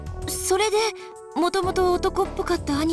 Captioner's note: none